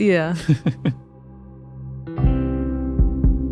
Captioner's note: chuckles; mellow music